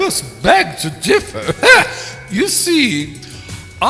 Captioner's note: skeptical sound